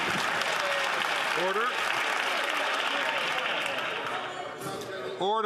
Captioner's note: some Applause